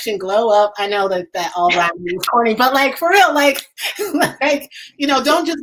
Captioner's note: laughs